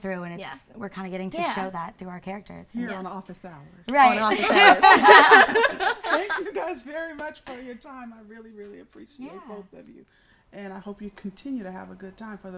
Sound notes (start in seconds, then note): 4.0 laughs